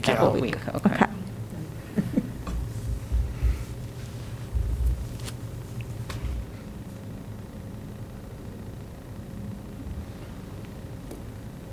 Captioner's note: laughter